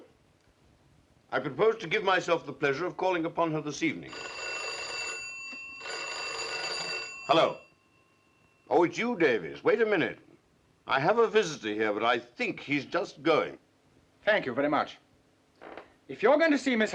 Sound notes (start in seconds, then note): 4.0 phone rings